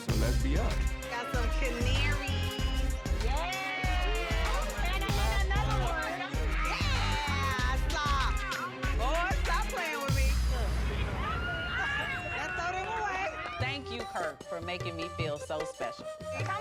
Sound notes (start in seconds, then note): 5.6 rhythmic music; 11.1 people yelling at once